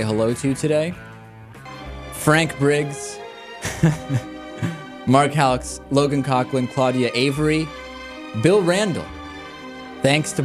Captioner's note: laughs